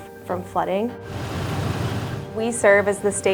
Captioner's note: driving noises